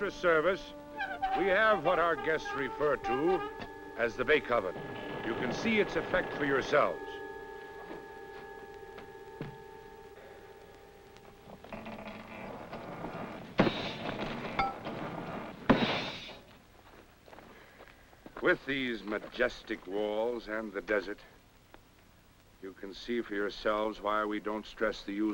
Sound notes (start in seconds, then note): 14.7 banging